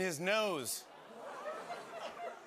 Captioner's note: audience gasps; laughter